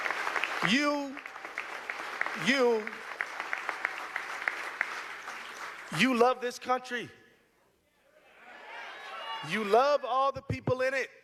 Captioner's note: applause